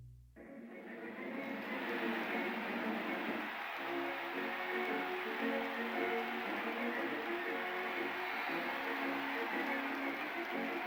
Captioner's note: applause